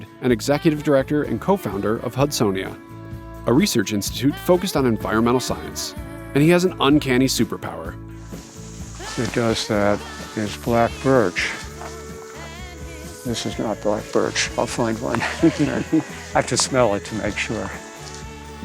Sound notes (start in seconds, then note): 15.6 laughs